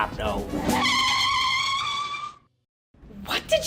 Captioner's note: car tires screeching